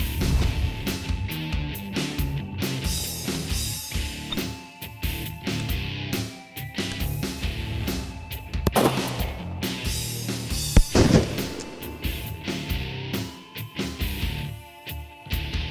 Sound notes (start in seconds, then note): 0.2 electric guitar music; 8.6 gunshot